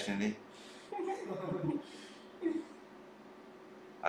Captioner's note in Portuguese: risos